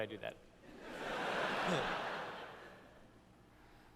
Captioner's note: laughter